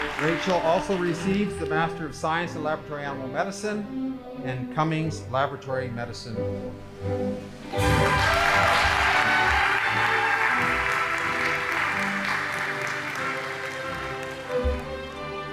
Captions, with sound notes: Rachel also receives the master of science in laboratory animal medicine and Cummings Laboratory Medicine Award. (audience applauding) (band playing)